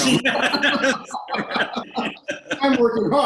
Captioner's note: both laughing